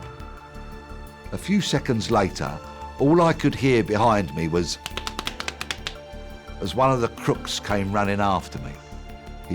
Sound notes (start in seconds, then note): 4.7 clapping